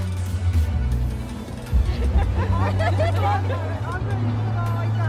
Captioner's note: giggling